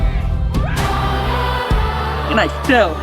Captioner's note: campers roar